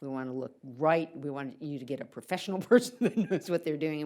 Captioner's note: laughs